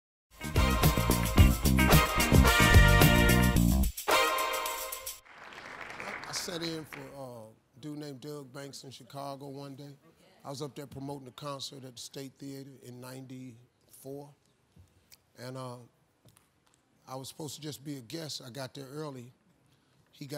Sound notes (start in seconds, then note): 0.4 bouncy music; 5.1 applause